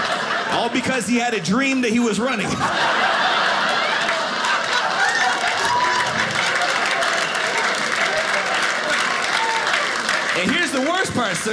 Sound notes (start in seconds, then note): 0.0 audience laughing; 2.6 audience cheering; 7.2 audience applauding